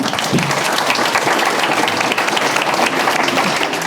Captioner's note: applause